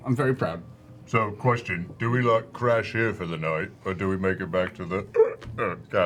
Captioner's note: hiccup